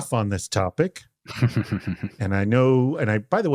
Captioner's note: man chuckling